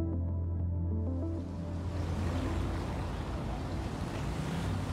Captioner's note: car rumbling